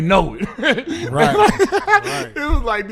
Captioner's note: laughing